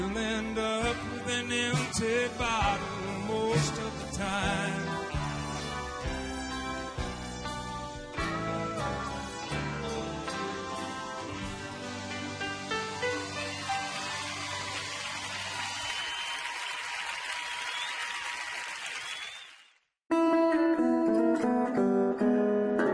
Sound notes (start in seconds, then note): 12.9 audience cheering and applauding; 20.1 soft music